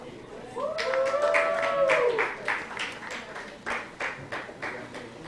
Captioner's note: applause